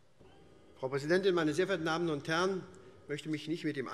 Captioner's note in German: none